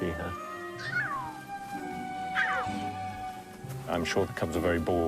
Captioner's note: cubs squeaking